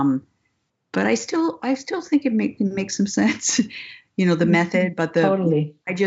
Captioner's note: laughs